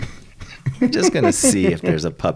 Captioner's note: laughing